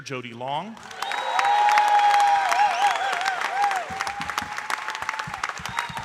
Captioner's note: audience cheering and applauding